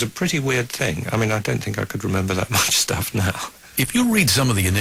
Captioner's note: chuckling